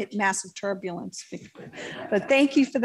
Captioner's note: laughter